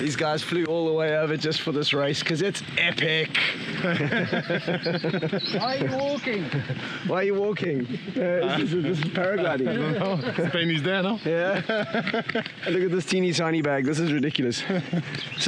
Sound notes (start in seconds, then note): 3.3 all laugh; 11.3 laughs